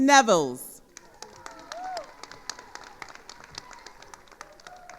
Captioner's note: attendees applauding